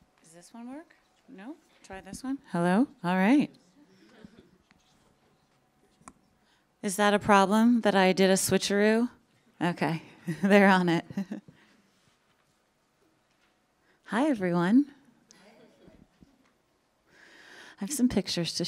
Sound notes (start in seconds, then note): 8.9 chuckles